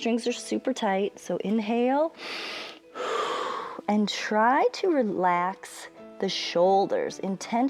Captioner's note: inhales and exhales